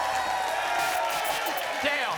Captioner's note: applause and cheering cont; static